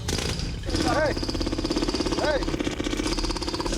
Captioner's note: jackhammer straining